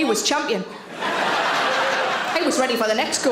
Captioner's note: audience laughing